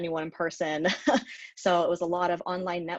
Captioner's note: chuckles